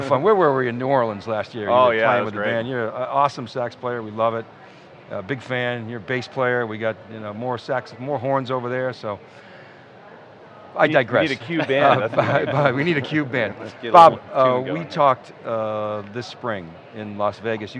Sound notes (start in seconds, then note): 11.2 laughing